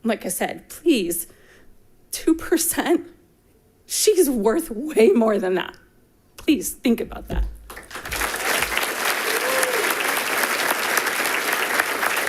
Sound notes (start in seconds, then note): 7.6 people clapping